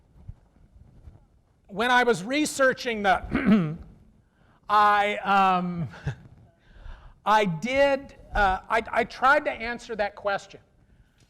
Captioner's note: clears throat